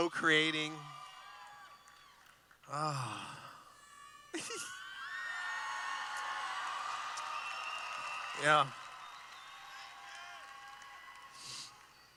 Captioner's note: cheering